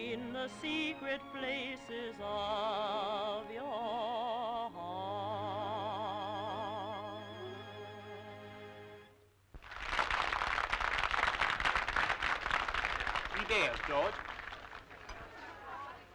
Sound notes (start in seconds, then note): 9.6 audience applauding